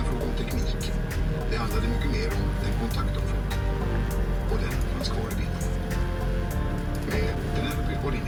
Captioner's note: swedish audiobook in background